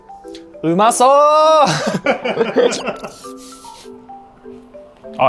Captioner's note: speaks Japanese